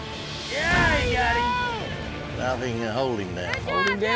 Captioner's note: all shouting; thuds down